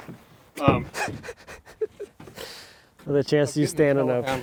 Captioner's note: chuckles